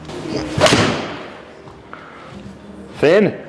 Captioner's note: club thuds